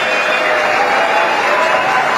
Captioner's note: applause